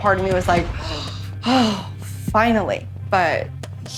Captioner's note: sighs